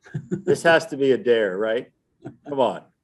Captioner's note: interviewer laughing